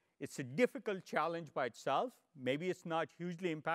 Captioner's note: none